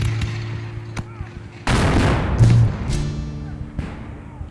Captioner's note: guns fire